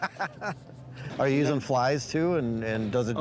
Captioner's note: laughing